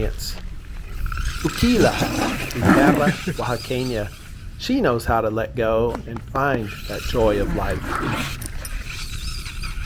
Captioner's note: Juqui growling